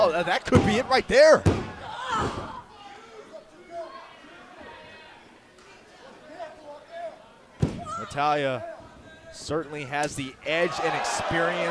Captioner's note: crowd chatter